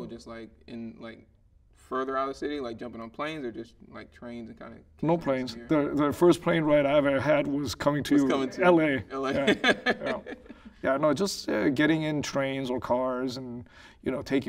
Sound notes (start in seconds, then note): 9.1 laughing